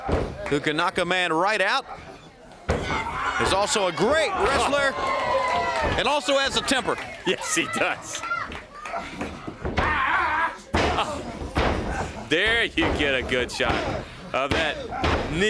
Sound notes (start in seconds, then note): 1.0 crowd cheering